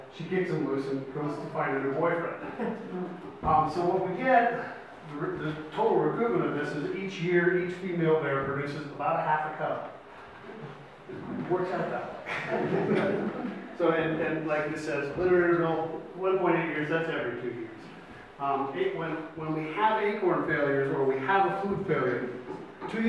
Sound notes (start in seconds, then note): 12.2 audience laughs